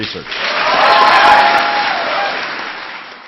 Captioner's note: applause